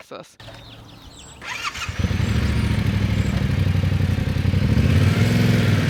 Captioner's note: motorbike starting